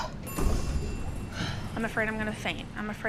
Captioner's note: door rings and opens